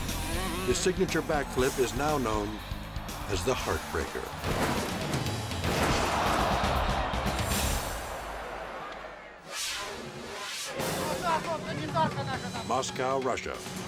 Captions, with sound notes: His signature back flip is now known as The Heartbreaker. (crowd yelling) (light dramatic music) (people speaking foreign language) Moscow, Russia.